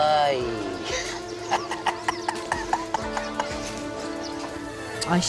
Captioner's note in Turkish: Gülme sesi; Müzik - Arabesk